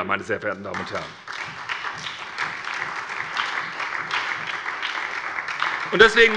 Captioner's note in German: Beifall bei der SPD